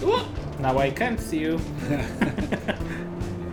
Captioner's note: laughs